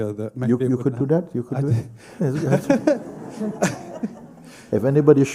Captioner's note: laughter